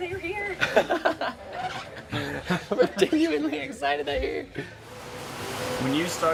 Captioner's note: laughs